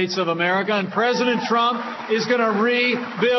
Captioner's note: applause